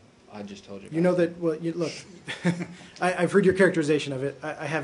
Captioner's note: laughter